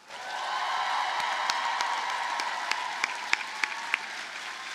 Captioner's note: audience cheers and applauds